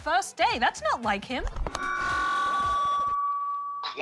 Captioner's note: feedback whines